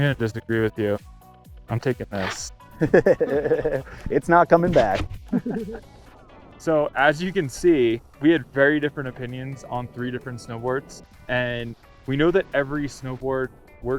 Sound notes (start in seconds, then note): 2.8 laughs